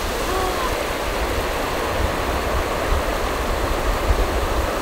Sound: ocean roaring

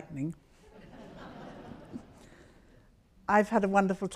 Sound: audience laughs

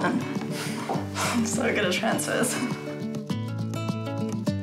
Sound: chuckles

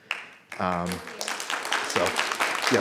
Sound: people clapping

